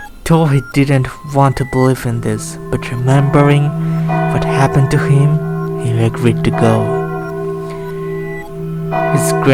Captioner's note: church ring